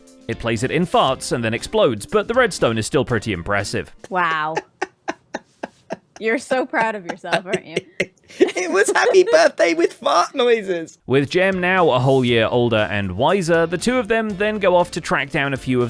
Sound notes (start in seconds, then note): 4.1 laughs; 8.8 still laughing